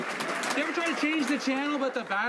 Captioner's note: some Applause